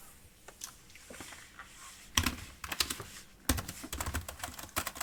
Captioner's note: keys clicking